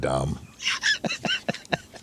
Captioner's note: laughing